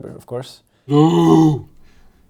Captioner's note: neanderthal grunting